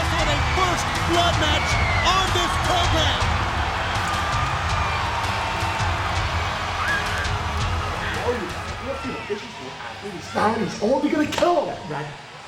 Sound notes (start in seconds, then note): 3.7 crowd cheering; 3.7 dramatic music